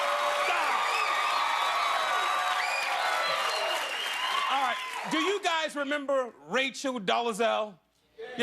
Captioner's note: cheers and applause